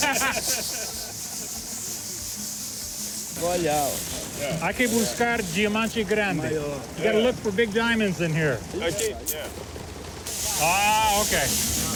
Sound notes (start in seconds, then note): 0.0 laughter; 3.3 both speaking Portuguese